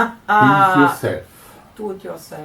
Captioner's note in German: lacht; Aus dem Off